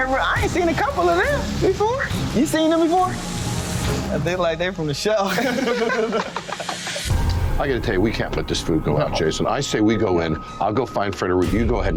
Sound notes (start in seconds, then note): 5.2 laughing